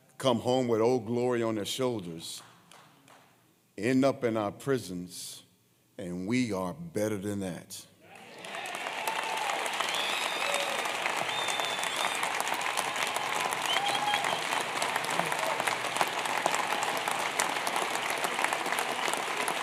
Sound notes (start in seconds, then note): 7.9 applause